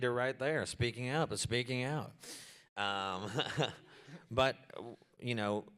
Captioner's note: chuckles